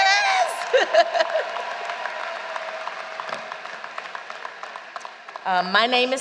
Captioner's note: applause